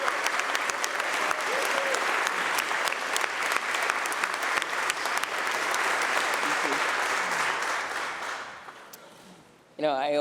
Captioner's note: applause